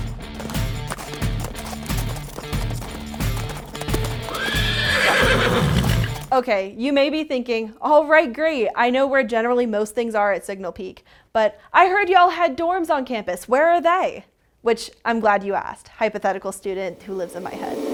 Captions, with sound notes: [Competitive Horse Sounds with Rock Music] Okay, you may be thinking, alright great, I know where generally most things are at Signal Peak, but “I heard y’all had dorms on campus, where are they?” Which, I’m glad you asked, hypothetical student who lives in my head.